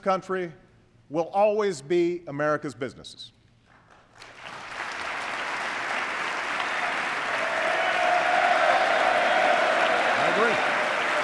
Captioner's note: applause